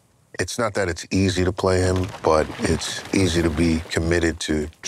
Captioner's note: rocks crumbling